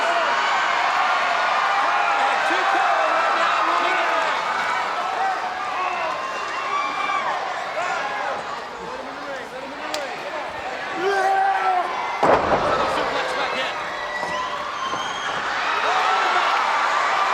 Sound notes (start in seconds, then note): 0.2 crowd cheering; 10.9 person yelling; 12.6 presenter speaking faintly off mic